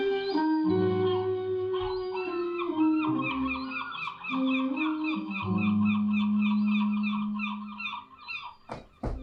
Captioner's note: seagulls